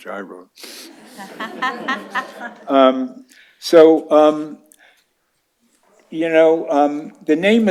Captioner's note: laughter